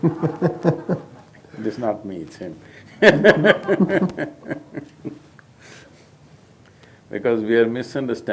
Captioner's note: laughter; laughter